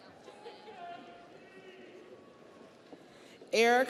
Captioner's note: audience cheers